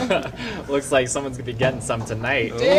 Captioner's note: laughs